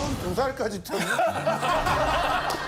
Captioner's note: laughter